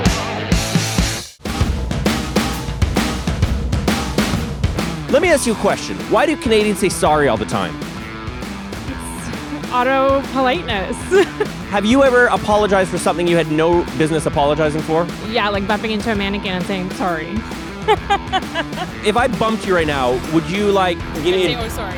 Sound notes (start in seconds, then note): 10.7 laughs; 17.0 laughs